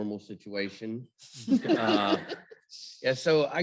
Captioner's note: chuckles